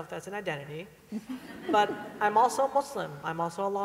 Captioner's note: laughter